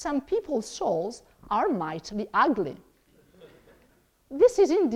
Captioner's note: audience laughs